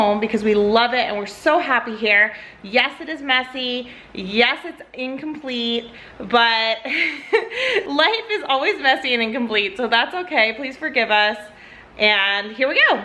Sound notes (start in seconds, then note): 6.9 laughs